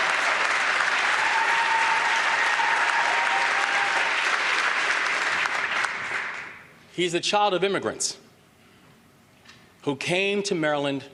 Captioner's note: applause